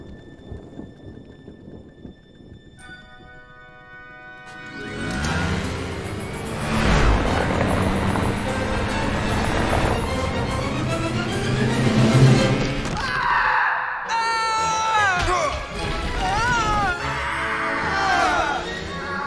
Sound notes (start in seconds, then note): 12.9 screaming